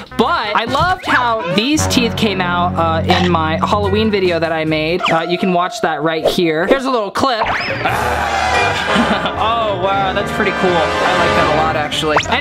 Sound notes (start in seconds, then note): 7.8 laughs; 7.8 snarls